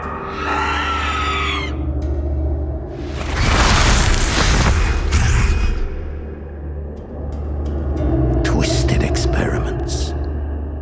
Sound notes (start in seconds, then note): 0.0 demonic shrieking; 2.9 demonic roaring; 6.3 ethereal whooshing